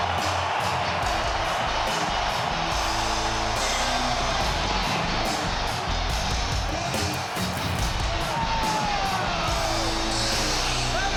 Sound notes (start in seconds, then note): 0.9 audience cheers; 0.9 upbeat music; 7.8 audience cheers; 7.8 upbeat music